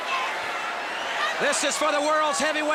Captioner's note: crowd chatter